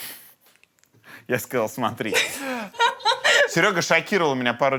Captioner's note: laughs